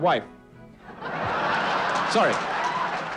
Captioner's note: crowd laughing